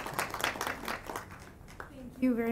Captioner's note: applause